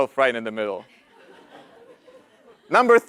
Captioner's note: laugh